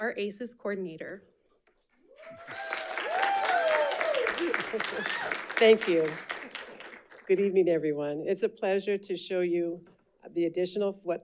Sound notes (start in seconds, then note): 2.0 audience applauding and cheering; 4.4 chuckles